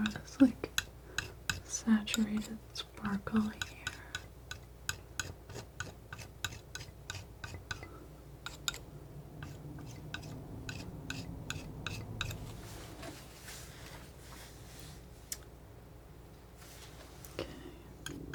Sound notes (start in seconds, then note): 5.0 scratching